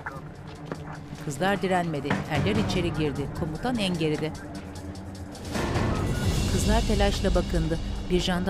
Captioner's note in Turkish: Telsiz sesi; Müzik - Gerilim